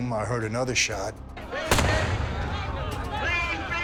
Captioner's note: shouting; gunshot